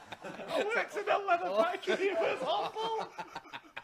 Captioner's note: whilst laughing